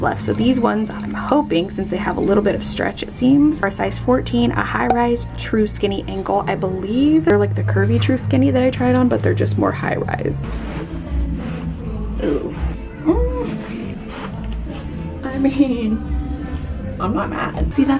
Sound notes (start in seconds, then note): 13.0 groans